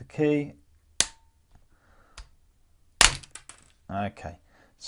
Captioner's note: pop